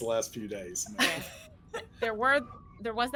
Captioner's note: laughing